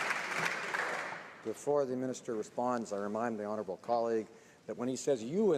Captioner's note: some Applause